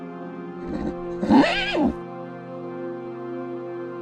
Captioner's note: animal squealing